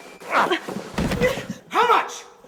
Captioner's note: body falling